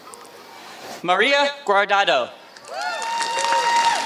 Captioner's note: applause